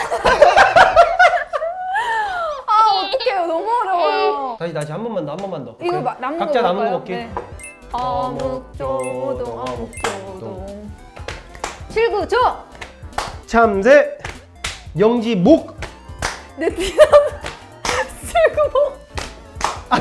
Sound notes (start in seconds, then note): 2.9 cry